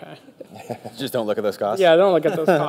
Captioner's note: panel laughs